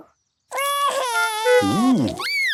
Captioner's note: cries